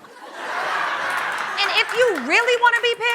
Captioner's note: laughter